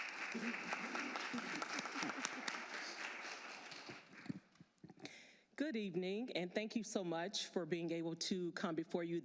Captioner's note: applause